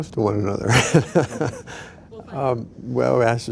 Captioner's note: laughs